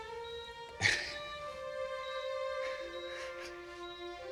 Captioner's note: laughing